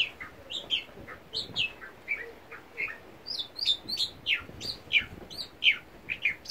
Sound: bird song

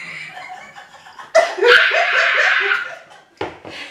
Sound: laughin

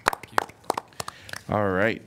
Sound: applause

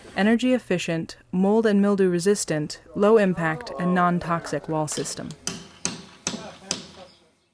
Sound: sounds of construction

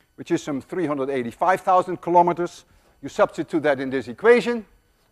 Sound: none

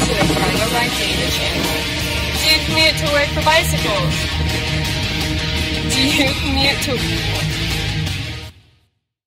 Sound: laughter

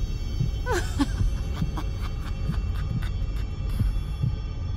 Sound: sinister laughter

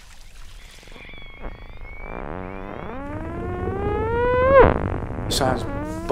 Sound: high-pitched frequency

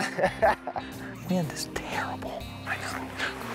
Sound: whispers

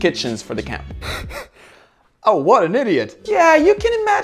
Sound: laughs

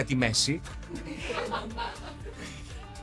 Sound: laughs

